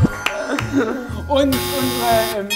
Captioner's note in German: Buzzer